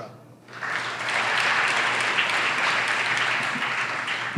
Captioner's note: audience applauds